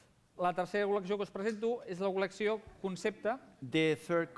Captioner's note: non-english speech